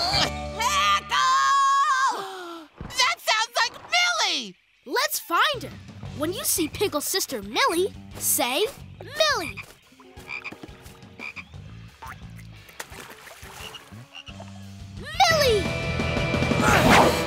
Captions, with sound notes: Pickle! [gasps] That sounds like Millie! Let's find her. When you see Pickle's sister Millie, say Millie! Millie!